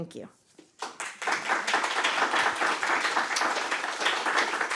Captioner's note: applause